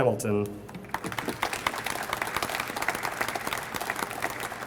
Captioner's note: audience applauds